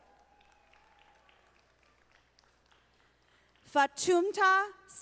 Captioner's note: audience applauding